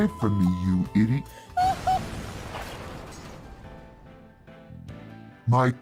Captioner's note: kabooooom